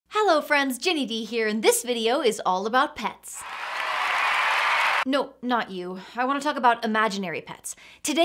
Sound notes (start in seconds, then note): 3.4 audience cheers; 3.4 audience claps